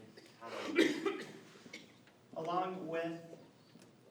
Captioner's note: attendee coughs